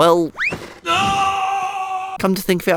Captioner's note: falling sounds